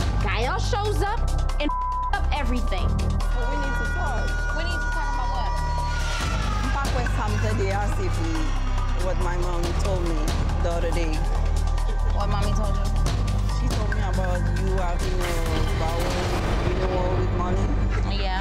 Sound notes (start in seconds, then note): 1.6 beep; 6.6 siren blares; 7.9 speaking in foreign language